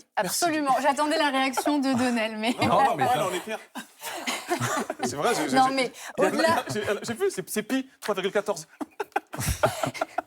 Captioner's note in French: rires